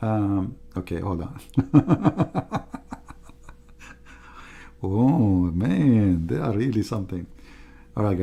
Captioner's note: Ketawa